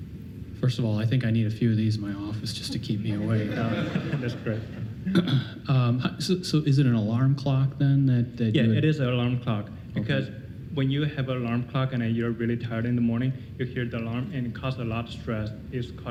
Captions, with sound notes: >> FIRST OF ALL, I THINK I NEED A FEW OF THESE IN MY OFFICE, JUST TO KEEP ME AWAKE. (audience laughing) SO, IS IT AN ALARM CLOCK THEN? >> YEAH, IT IS AN ALARM CLOCK, BECAUSE WHEN YOU HAVE AN ALARM CLOCK AND YOU'RE REALLY TIRED IN THE MORNING-- YOU HEAR THE ALARM AND IT CAUSES A LOT OF STRESS--